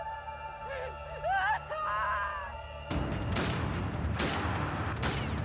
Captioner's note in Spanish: llanto